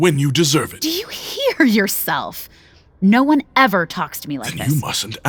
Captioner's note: incredulous